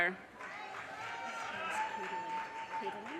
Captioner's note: audience cheers and applause